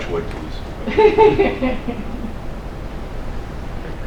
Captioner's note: laughter